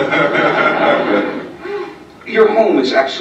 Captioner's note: laughter